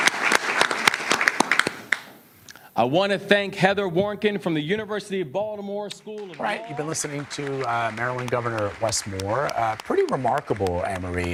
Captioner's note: applause